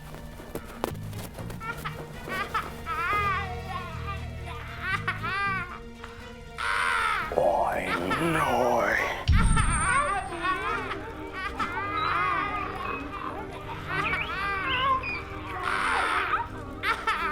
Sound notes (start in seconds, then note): 1.2 laughter